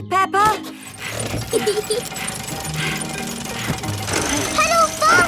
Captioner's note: mummy pig panting; peppa laughing